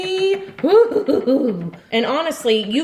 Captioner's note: giggles